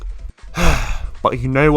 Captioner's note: sigh